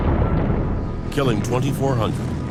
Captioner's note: bombs exploding